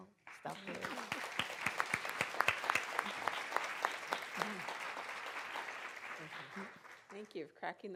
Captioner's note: applause